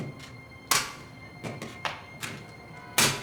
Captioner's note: stapler clanging